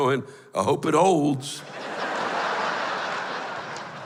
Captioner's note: laughter